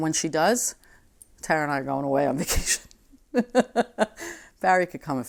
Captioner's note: laughing